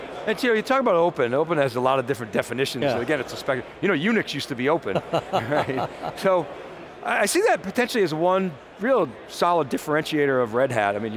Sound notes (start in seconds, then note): 4.9 laughs